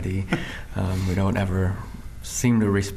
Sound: chuckling

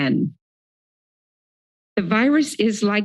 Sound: silence

